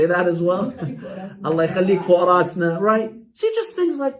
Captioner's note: Arabic